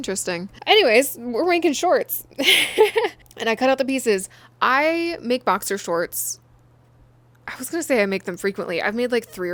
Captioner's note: giggle at self